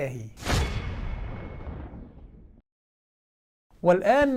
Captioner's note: sound effect